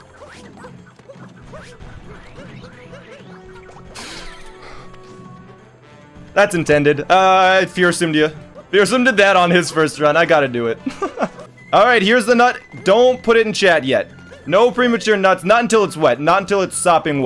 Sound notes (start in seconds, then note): 10.8 laughs